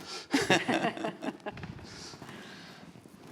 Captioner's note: all laughing